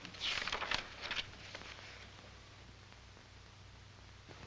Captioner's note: page rustling